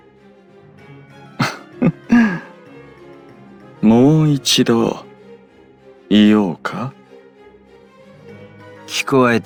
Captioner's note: laugh